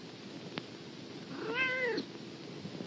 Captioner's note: meows